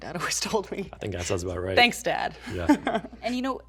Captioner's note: chuckles